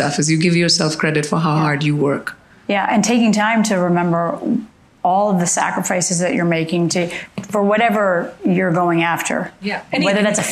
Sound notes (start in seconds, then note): none